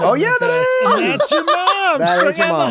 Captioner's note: laughs